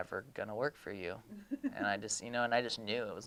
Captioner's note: laughing